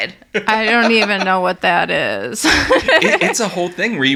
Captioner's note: laughs